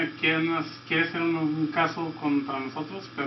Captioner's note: speaking Spanish